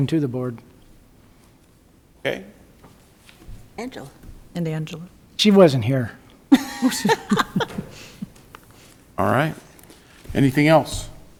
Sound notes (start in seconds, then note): 6.5 woman laughing